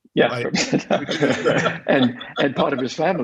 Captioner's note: laughing